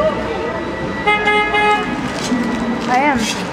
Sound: car horn honks

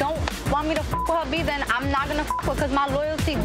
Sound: beep

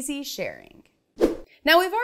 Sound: animation whooshes

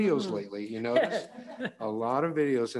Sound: all laughing

